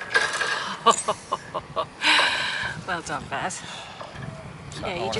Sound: relieved laughing

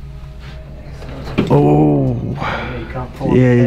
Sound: ominous instrumental music; cable clanging; cart thudding

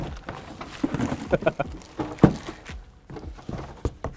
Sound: laughs

